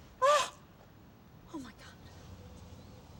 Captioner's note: gasps